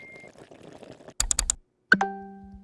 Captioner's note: water boiling; computer dinging; buttons clicking